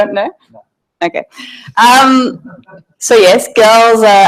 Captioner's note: audience laughing